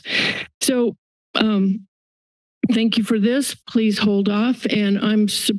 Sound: inhales

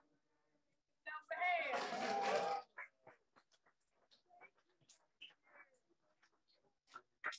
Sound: audience applauding

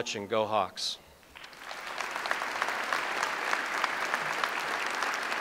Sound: audience applauds

